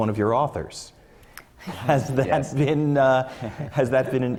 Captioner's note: laugh